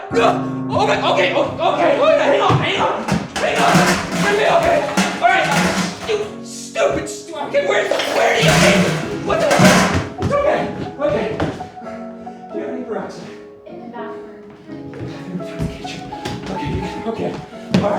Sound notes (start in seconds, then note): 5.6 objects clattering